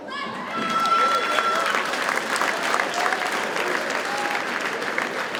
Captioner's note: audience cheers and applauds